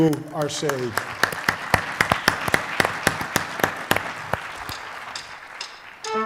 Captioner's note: applause